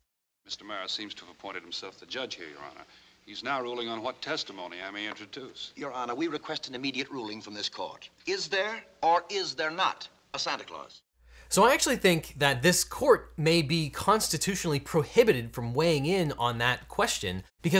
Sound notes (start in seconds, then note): none